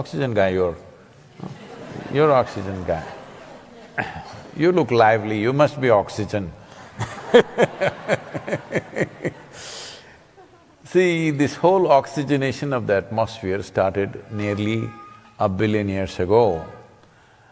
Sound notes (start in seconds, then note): 1.3 laughter; 6.7 laughs